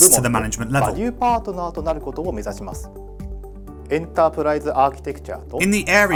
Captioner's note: speaks in Japanese